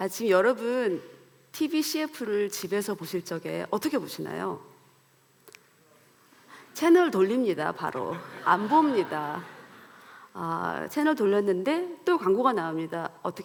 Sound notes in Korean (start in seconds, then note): 8.0 웃음